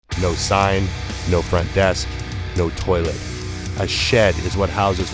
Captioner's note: voiceover